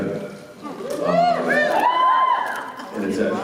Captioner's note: whoops and cheers